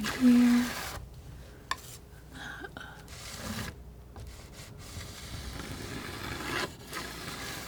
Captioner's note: scratching